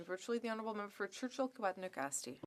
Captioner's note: speaking French